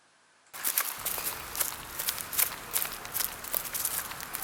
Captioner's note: footsteps rustle